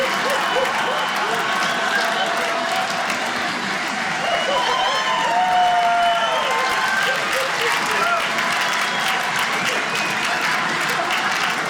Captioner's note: audience laughing